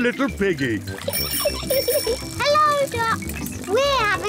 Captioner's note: giggles